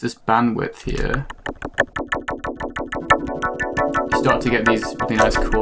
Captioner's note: clicking becomes synthy